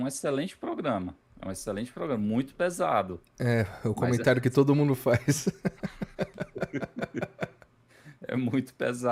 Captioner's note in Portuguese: risadas